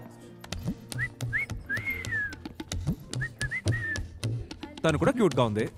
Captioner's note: Whistles